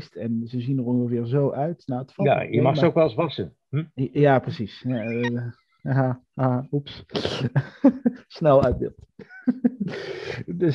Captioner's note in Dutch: gelach